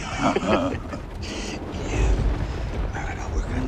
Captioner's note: laughter